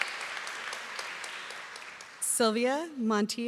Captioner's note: applause